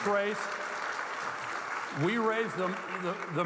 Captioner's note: audience clapping